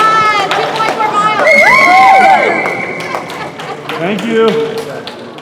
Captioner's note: cheers and laughs